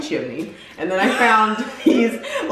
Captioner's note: laughing